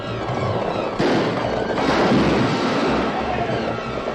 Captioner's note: gunshots and horses galloping